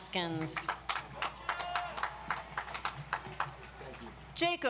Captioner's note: audience applauds